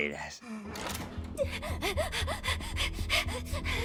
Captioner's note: panting; tense music plays